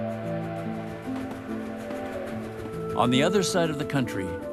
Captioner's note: trains rumbling on tracks